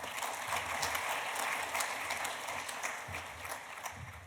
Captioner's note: audience applauding